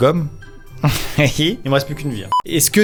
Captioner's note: giggles